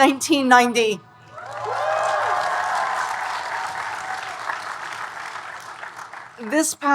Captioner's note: audience cheering and applauding